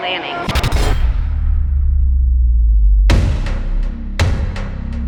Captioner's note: ominous thudding